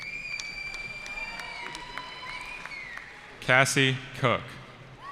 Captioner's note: cheering